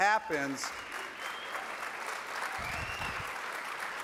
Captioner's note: clapping